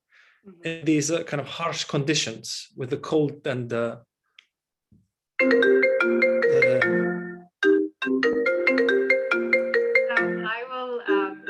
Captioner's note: phone ringing